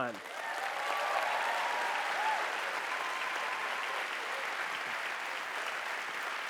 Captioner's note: audience cheering and applauding